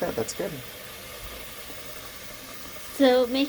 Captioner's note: water sounds